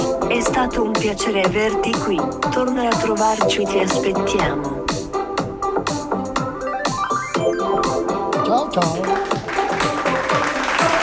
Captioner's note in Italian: Applauso